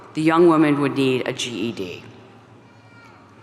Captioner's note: none